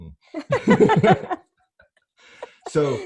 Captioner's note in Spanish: ambos se ríen